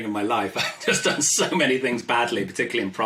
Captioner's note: laughs